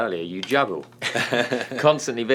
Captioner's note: laughing